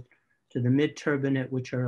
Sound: speaks faintly

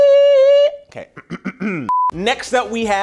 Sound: clears throat

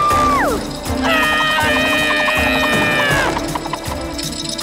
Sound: screaming

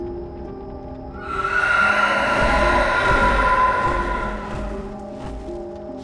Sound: screeching

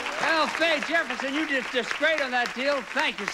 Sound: audience applauding

